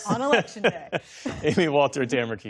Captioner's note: laughter